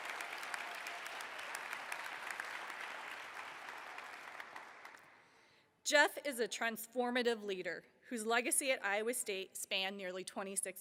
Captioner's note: applause